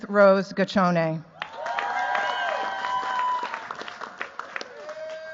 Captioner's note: cheers, applause